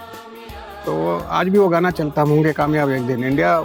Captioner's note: speaking in Hindi